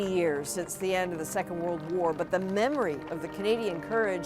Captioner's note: applause